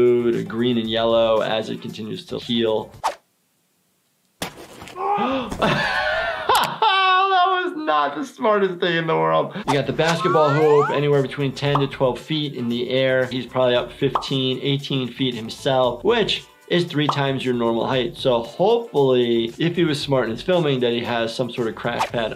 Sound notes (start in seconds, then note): 3.9 thumps and screams; 5.1 gasps; 6.1 laughing